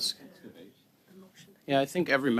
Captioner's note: conversation din